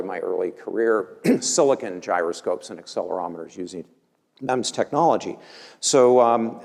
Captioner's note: cough